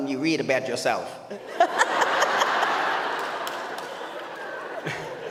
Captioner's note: audience laughs